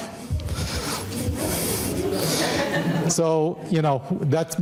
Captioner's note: audience laughing